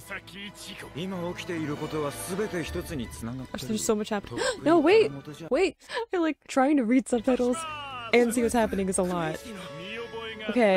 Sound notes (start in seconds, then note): 0.3 speaking in foreign language; 4.3 gasping; 9.5 speaking in foreign language